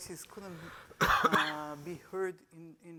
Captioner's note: coughing